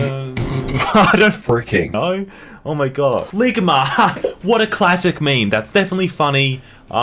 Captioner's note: laughing